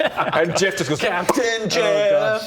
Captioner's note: pop